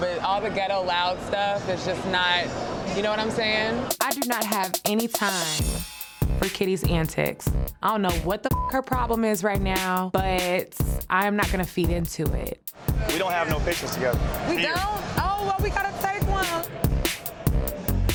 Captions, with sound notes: But all the ghetto loud stuff, it's just not, you know what I'm saying? I do not have any time, for Kitty's antics. I don't know what (beeps) her problem is right now, but I'm not going to feed into it. - We don't have no pictures together. - We don't. Oh, well we gotta take one.